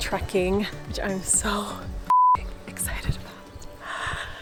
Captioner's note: beep